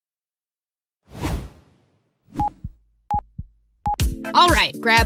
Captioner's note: air whooshes